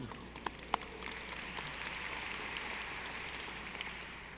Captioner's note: audience applauding